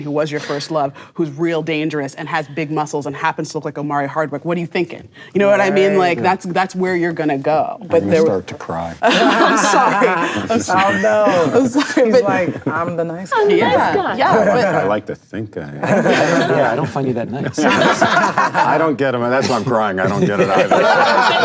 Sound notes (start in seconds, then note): 17.7 laughing